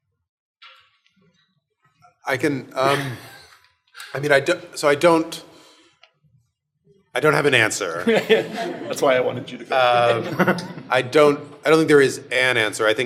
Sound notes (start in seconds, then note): 8.0 audience laughing; 8.0 chuckles